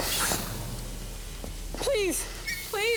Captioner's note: gas hissing